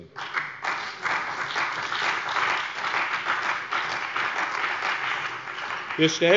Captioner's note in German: Beifall bei dem BÜNDNIS 90/DIE GRÜNEN und der CDU